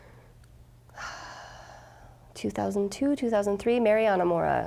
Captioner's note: sighing